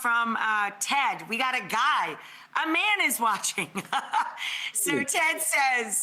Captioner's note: laughs